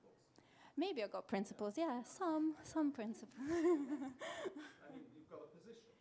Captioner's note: chuckles